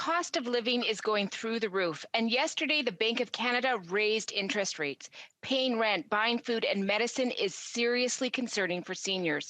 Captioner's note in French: voix de l'interprète